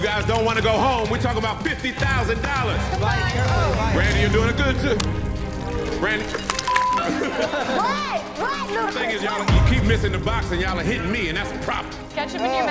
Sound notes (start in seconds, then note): 6.6 beep; 7.4 laughing